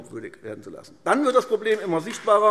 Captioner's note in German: Beifall AfD